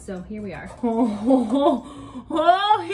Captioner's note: groans